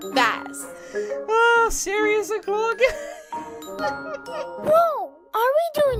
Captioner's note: laughing